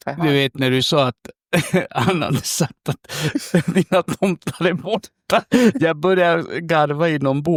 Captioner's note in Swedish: skratt